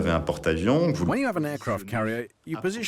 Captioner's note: voiceover